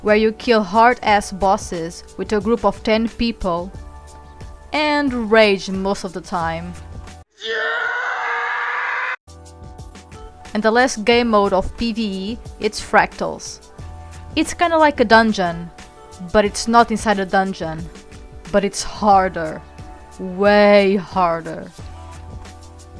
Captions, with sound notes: where you kill hard as bosses with a group of 10 people and rage in most of the time *angry scream* and the last game mode of PvE it's Fractals it's kind of like a dungeon but it's not inside a dungeon but it's harder way harder!